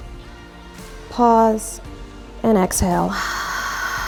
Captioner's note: exhales